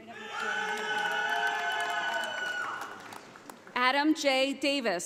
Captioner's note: audience applauding